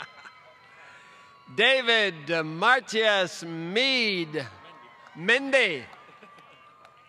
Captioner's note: laughter